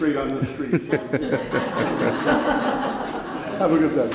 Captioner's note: entire courtrooms laughs